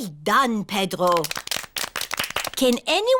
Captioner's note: all clap